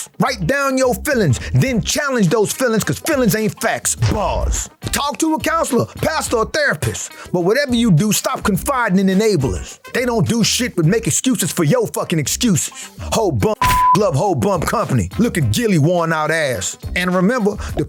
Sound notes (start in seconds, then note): 13.6 beep